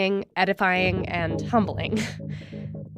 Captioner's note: chuckles